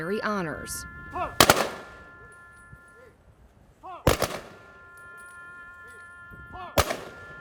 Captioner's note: gun shots; tranquil music